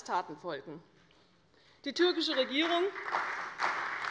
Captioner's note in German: Beifall bei der CDU und dem BÜNDNIS 90/DIE GRÜNEN